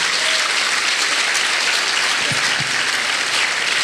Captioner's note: applause